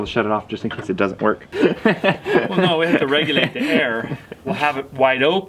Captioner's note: laughs